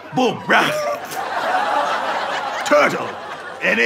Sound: audience laughter

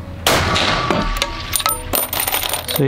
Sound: bam!!!

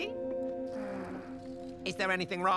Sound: heavy sigh

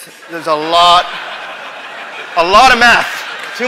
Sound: audience applause

